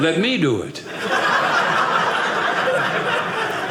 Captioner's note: audience laughing